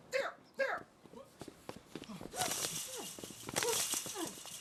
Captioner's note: grunting